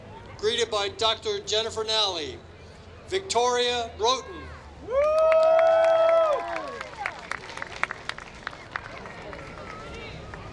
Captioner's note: applause